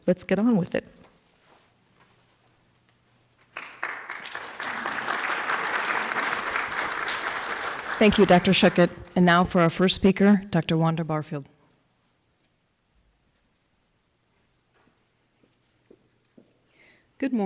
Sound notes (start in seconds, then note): 3.5 cheers and applause